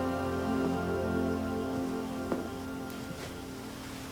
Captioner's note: none